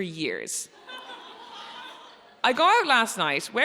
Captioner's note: audience laughs